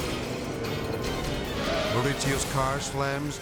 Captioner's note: tires squealing